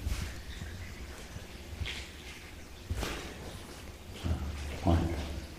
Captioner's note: water dripping